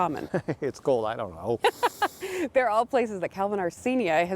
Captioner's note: chuckles